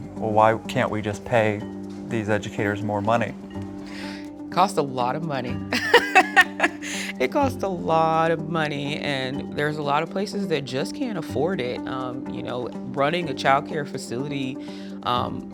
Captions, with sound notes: "Well, why can't we just pay these educators more money?" - It costs a lot of money. [laughs] It costs a lot of money, and there's a lot of places that just can't afford it, you know, running a childcare facility,